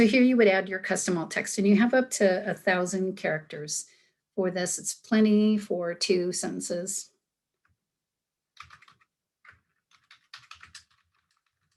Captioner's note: sound of typing